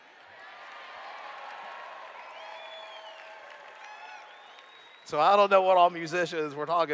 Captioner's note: cheers